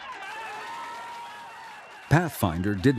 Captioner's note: cheering, applauding